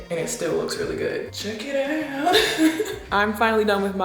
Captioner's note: laughs